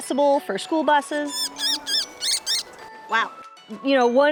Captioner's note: bird chirping